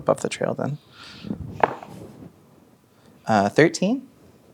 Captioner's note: dice rolling